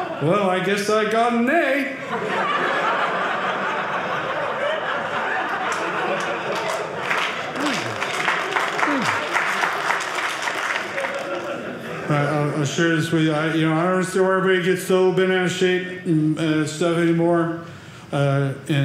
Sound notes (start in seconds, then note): 1.9 audience laughing; 7.2 audience applauding